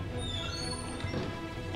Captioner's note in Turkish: Kapı gıcırtısı sesi